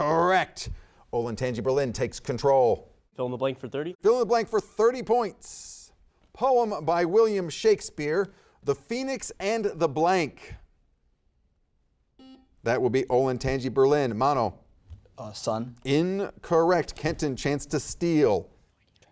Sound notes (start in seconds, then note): 12.2 buzzer beeping